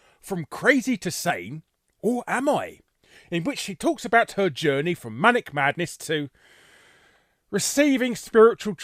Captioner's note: sigh